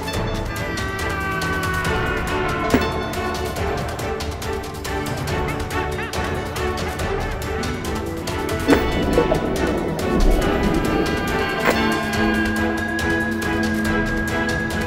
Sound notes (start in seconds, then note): 0.1 bird yelling; 2.6 keyboard tap; 6.1 bird vocalizes; 8.1 keyboard tap; 10.6 bird vocalizes